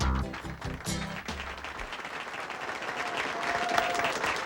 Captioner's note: audience applauding